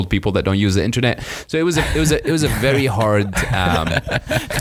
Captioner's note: laughing